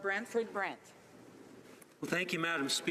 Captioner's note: speaking French